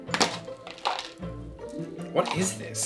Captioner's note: plastic container clicks open